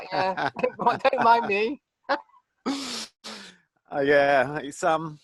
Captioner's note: both laughing